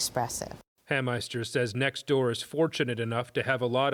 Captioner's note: voice-over